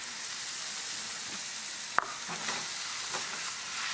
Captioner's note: pan sizzling